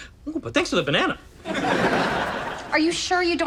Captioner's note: audience laughs